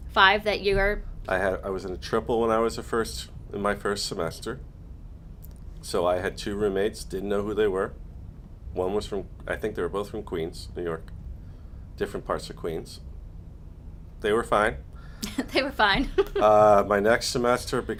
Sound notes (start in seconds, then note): 16.0 laughs